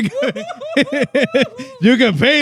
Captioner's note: laughing